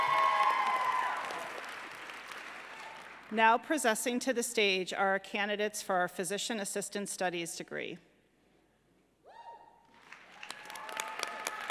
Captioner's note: applause